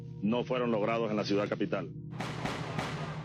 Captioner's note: gunfire